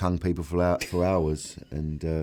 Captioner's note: laughs